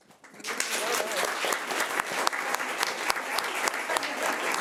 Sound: audience applauds

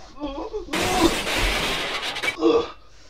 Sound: fast Forward Car Crashing Sound Effect

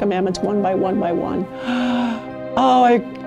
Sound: huffs

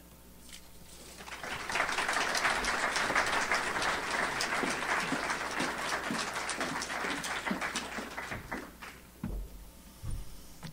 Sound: audience applauds

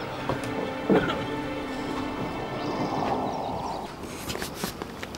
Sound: Loco coughs; cutting noises

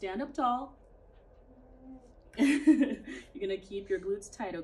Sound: laughing

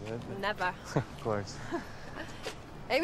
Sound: chuckles

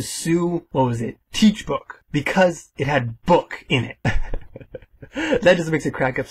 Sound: haha

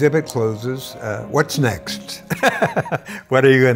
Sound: laughter

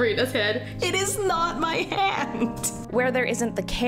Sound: laughs

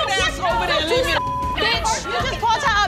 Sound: beep

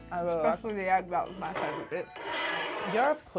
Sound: plate dragging

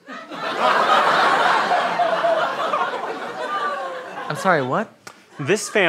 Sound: audience laughter

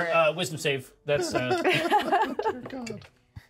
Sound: laughs

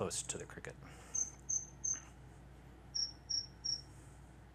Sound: chirps

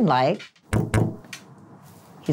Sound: fist tapping

